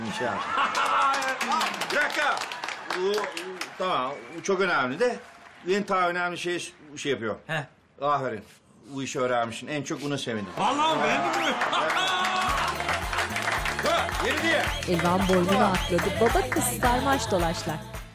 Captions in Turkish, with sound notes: (Gülme sesleri) (Alkış sesleri) Bir dakika. Tamam, o çok önemli de… …ben daha önemli bir şeyi şey yapıyorum. Ha? Aferin. Bu işi öğrenmişsin. En çok ona sevindim. Vallahi mi? Beğendin mi? (Gülme sesleri) (Alkış sesleri) Dur. Yeri değil. (Geçiş müziği) "Laylara laylara laylara lay lay"